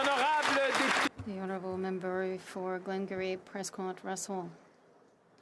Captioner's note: applause